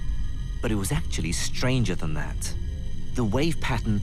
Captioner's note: voiceover